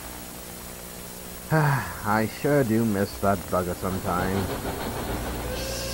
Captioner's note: sigh